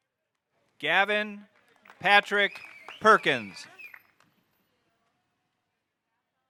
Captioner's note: audience member whistling